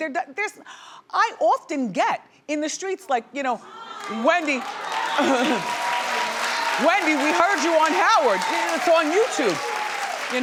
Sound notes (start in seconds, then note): 4.3 audience cheering